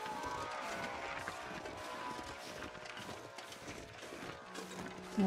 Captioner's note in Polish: Aplauz